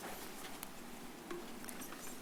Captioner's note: rustles